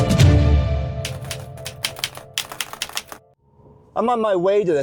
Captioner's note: keyboard keys clicking